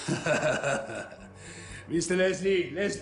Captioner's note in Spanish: Risas